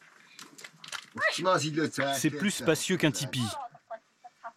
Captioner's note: foreign spoken audio